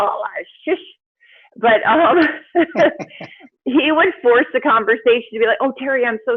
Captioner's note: laughs